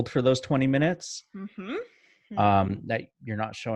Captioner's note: none